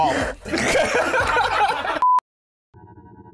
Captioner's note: laughter